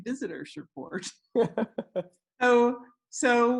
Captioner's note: laughs